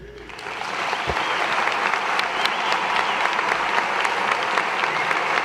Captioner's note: audience applause and cheers